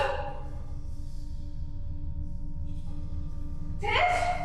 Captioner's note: low humming